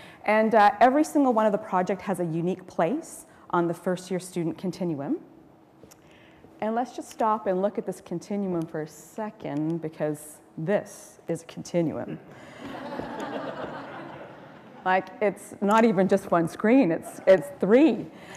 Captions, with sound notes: And every single one of the project has a unique place on the first year student continuum. And let's just stop and look at this continuum for a second, because this is continuum. [Laughter] >> Like, it's not even just one screen, it's three.